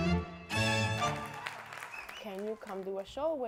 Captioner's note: clapping